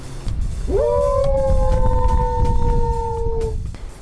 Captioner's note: howling